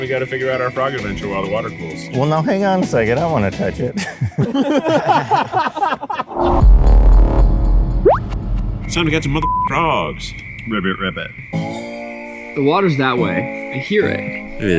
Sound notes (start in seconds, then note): 3.9 all laugh; 6.4 dramatic electronic music; 8.0 bubble pops; 11.5 gentle folk music